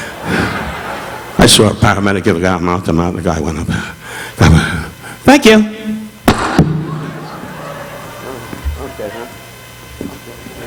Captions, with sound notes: (audience laughing) I saw a paramedic give a guy mouth-to-mouth and the guy went up. "Thank you." (mic thudding) - Oh, okay hun. - I'll get it.